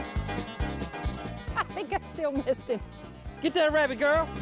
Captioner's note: laughs